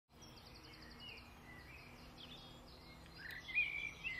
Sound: birds chirping

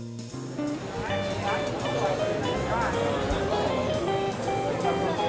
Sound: people talking in distance

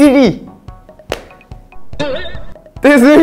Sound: clap

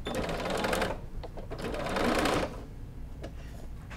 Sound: machine humming

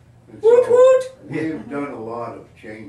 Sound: audience laughing

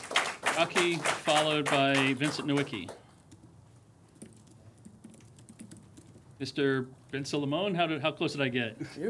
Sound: applause

